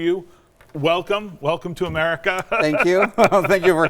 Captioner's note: laughs